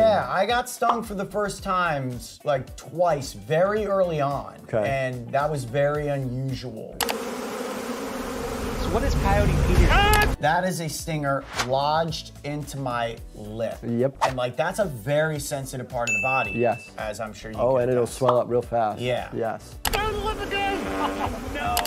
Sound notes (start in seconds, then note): 7.0 bees buzzing; 9.9 coyote screams